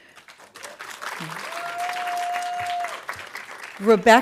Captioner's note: audience applauding